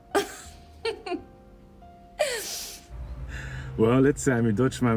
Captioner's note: Diana laughing